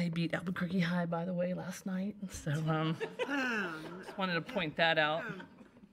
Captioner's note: group laughs